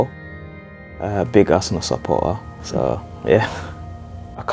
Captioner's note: chuckles